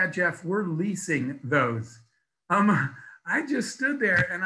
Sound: laughs

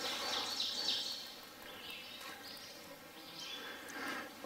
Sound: birds chirping

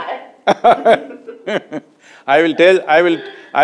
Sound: laughs

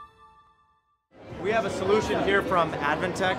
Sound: crowd murmuring

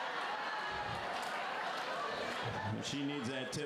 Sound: laughter

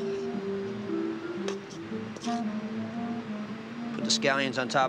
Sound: spoon scrapes

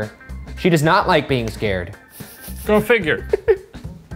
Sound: laughs

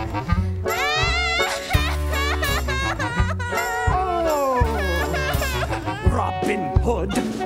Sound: boy loudly crying

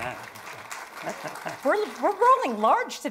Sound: attendees applauding

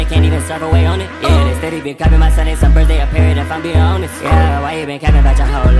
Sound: brr

